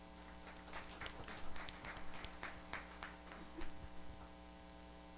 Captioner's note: audience applauds